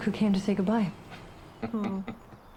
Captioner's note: chuckling